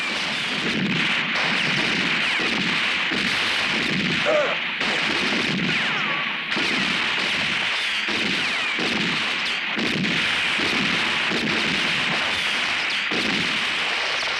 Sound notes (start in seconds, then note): 4.2 father groans; 6.9 guns roaring